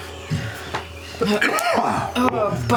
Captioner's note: coughs; slap